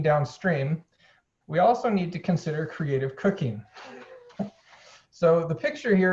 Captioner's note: laughing softly